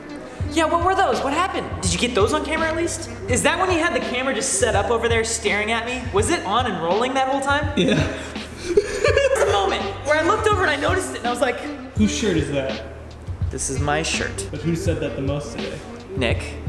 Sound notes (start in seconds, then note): 7.7 laugh